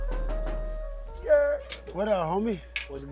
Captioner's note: knocking